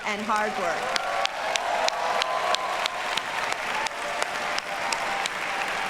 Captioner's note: audience cheers and applauds